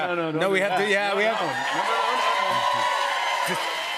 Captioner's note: cheers and applause